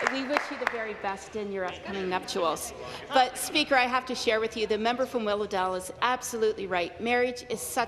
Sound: some Applause

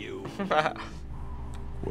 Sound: chuckles

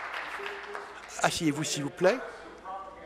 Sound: applause

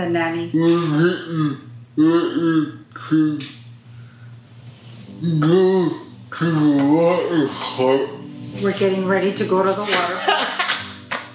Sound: laughs

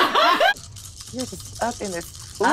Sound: dice shaking

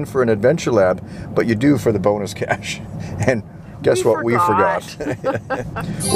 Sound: chuckle

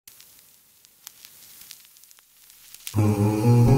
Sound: vinyl cracking

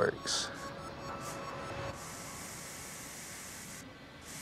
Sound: spraying sound

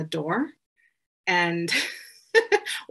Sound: chuckles

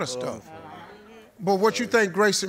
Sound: audience agreeing

